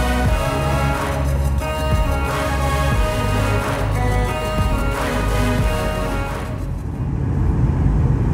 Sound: applause

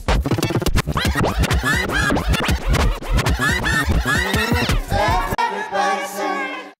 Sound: fast forward, rewind

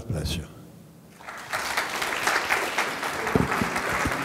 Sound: audience clapping

